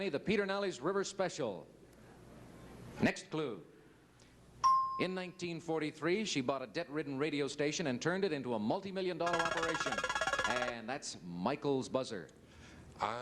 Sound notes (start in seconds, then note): 4.6 bell ding